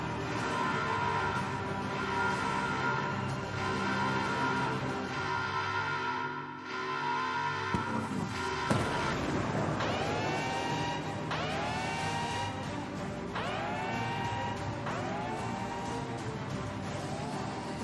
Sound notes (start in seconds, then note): 7.8 whirring??; 8.6 big explosion; 10.5 blaring alarm